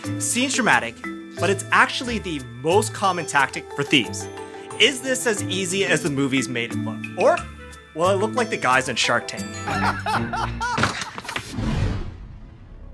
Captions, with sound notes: Seems dramatic but it's actually the most common tactic for thieves Is this as easy as the movies made it look? Or will I look like the guys on Shark Tank? [Laughing from Sharks]